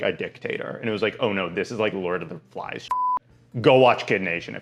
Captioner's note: beep